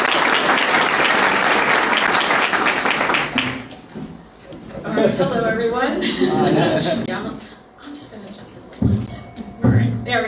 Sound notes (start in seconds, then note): 3.2 applause